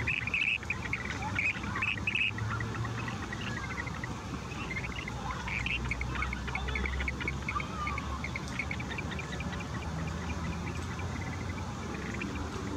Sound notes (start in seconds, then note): 1.7 birds chirping